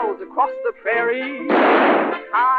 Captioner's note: gunshot